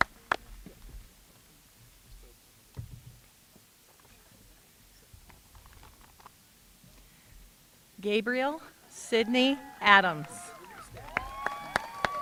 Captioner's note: applause